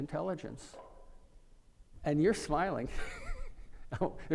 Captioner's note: laughing